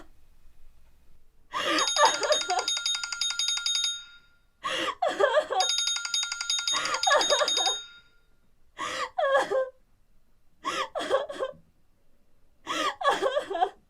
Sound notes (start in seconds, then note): 1.5 cell phone rings over sobbing; 8.8 cellphone stops ringing